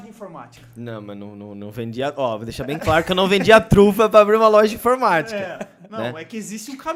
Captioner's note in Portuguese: risos